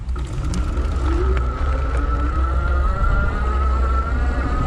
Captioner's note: bike whirring